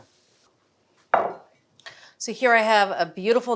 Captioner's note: dish taps